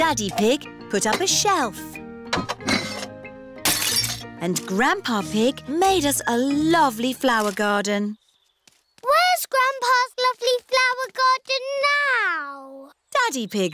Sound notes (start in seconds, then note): 3.6 shattering